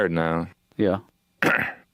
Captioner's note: cough